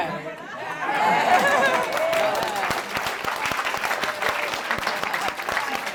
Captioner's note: audience cheers and claps